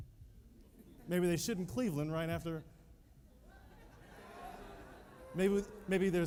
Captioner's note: laughter